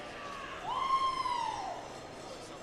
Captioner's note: indistinct chatter, Cheering